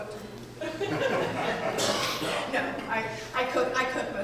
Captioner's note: audience laughing